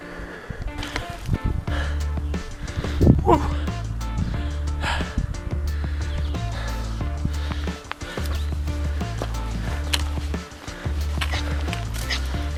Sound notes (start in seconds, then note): 1.6 heavy breathing; 5.9 breathing